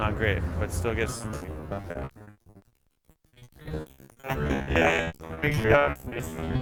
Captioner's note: crackles